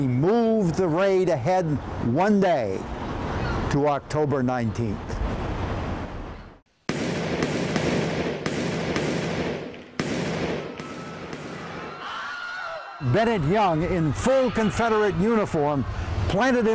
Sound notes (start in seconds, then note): 6.8 guns firing; 11.4 people screaming